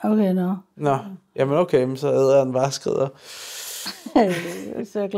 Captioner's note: laughs